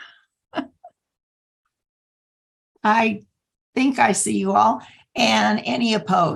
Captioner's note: laughter